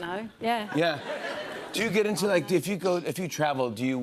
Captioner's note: normal voice